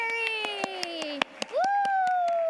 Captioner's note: audience applauding